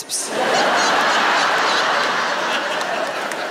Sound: laughter

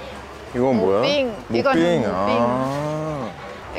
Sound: laughing

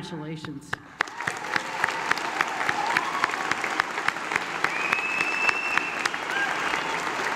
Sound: applause

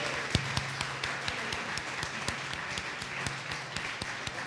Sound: audience applause

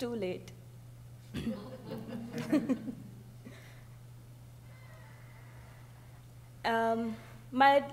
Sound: audience chuckles

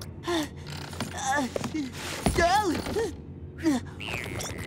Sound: grunting

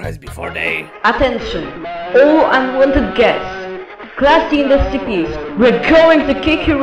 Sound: intercom

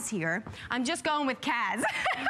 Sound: laughter

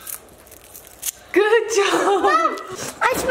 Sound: tape rips

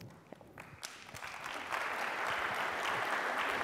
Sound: applause

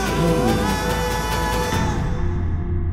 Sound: grunting

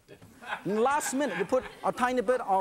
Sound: audience laughing

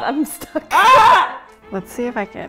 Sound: screaming

